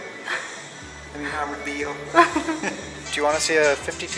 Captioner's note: speaking Spanish